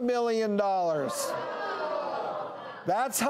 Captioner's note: audience protests